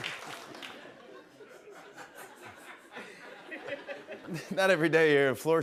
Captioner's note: laughter